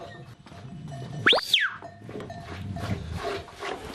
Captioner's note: whistles